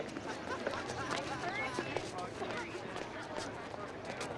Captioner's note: students chattering